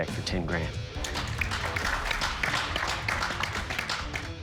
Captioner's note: applause